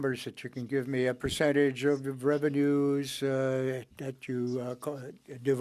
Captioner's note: speaking French